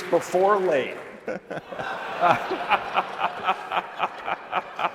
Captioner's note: laughter